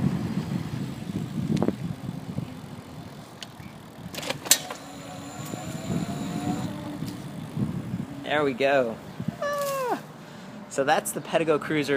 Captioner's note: motor whirring